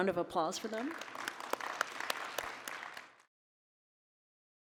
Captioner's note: audience applauding